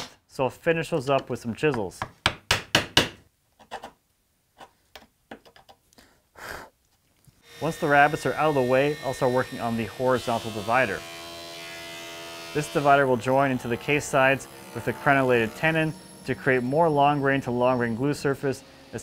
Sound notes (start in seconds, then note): 1.7 hammer taps; 3.3 chisel grinds; 11.7 planer buzzes